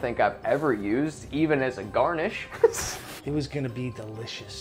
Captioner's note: laughs